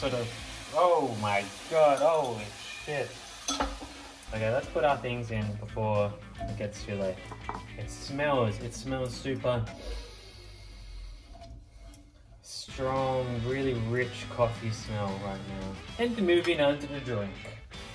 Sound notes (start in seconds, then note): 9.8 sniffing